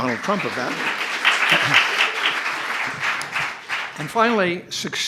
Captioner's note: applause